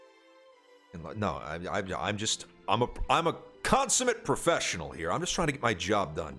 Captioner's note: stutters